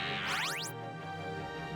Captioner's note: psychic buzzing